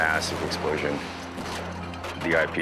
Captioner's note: camera clatters